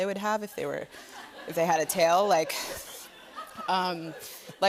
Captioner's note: laughter